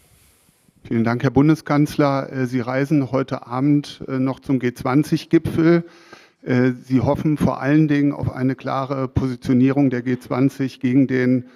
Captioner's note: speaks in German